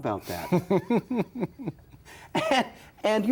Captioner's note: Leonard laughing